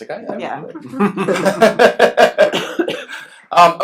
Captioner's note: laughs